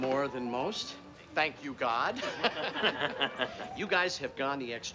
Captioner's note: laughing